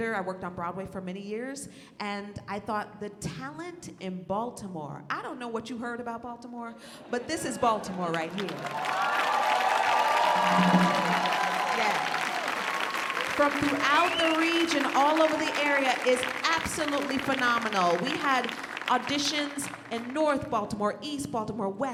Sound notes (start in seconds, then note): 8.8 audience cheering